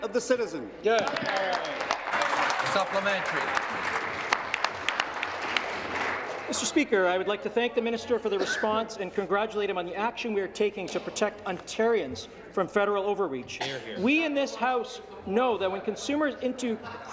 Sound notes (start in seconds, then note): 4.1 applause